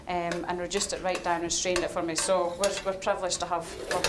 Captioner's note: none